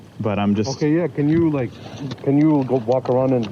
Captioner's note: none